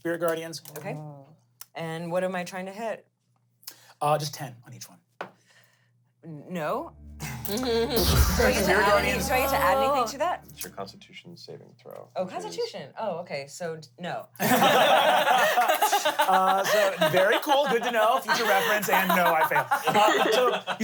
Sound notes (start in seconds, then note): 7.3 chuckles; 14.4 everyone laughs